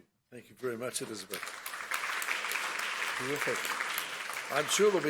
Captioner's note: audience applauds